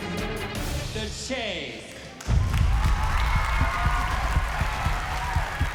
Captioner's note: cheering